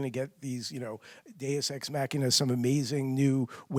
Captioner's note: speaks foreign language